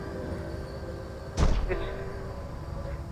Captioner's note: thuds